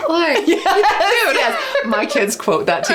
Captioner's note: laughing